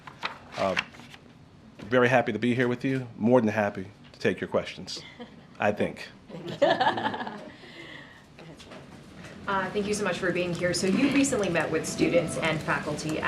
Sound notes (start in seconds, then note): 6.3 laughter